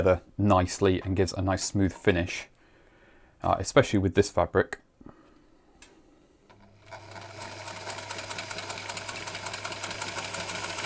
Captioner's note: sewing machine running